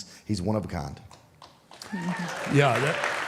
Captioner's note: audience applauding; audience cheering